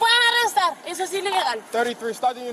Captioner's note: speaking in Spanish